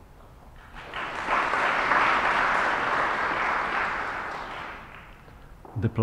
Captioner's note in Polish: oklaski